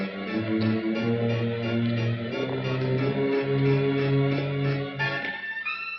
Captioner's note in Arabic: خطوات قدم